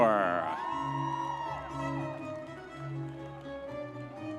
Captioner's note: audience members cheering